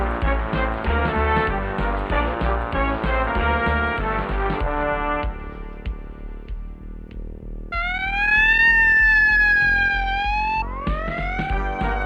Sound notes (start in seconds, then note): 7.7 police siren